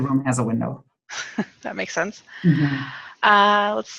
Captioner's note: laughs